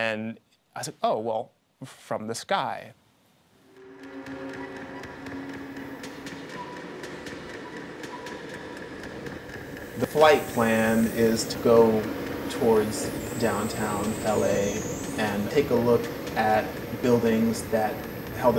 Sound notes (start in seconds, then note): 3.8 sound of helicopter blades whirring